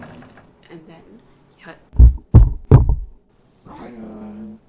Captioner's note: door creaks open; thud ,thud, thud